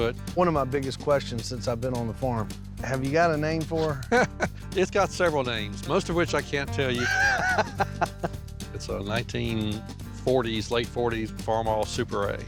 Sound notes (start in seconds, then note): 4.2 chuckles; 6.9 laughs